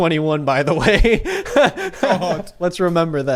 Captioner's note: laughs